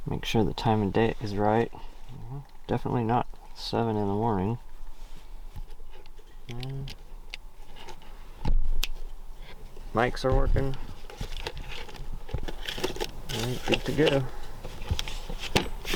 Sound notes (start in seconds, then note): 8.9 fingers snap; 14.7 case thuds